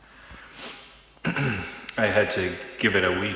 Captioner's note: clears throat